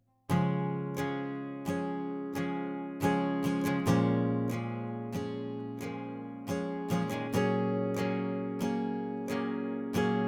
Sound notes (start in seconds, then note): none